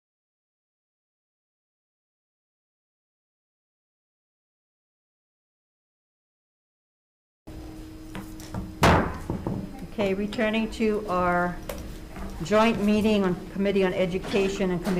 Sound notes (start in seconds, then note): 8.8 gavel banging